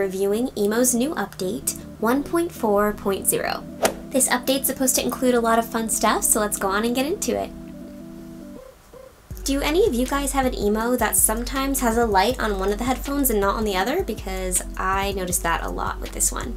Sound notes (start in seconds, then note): 3.8 whoosh